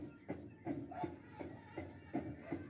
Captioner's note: none